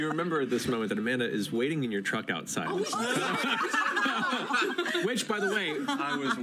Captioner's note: laughter